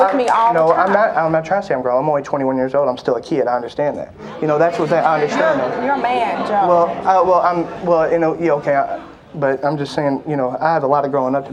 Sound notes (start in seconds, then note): 4.2 audience murmuring